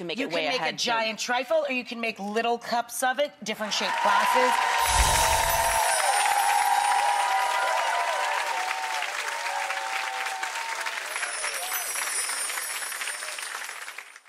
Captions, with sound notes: You can make it way ahead. You could make a giant trifle, or you can make little cups of it, different shaped glasses. (audience applauds) (bells chime)